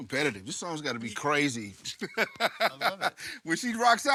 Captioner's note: laughs